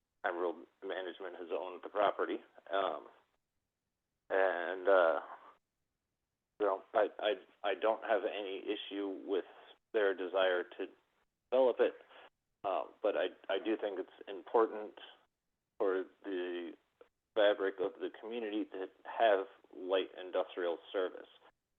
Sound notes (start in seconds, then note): 0.7 by phone; 4.5 by phone; 7.3 by phone